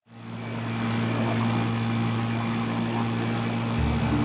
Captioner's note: motor revving